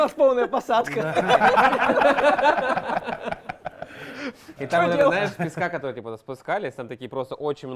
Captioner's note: laughter